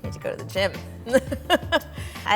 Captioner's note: laughing